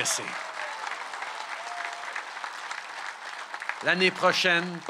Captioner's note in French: Acclamations et applaudissements